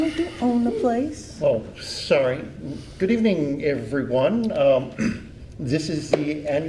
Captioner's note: clears throat